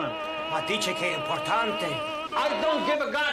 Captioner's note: speaking foreign language